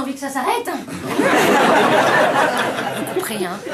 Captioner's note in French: rires